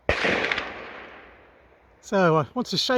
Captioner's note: rifle shot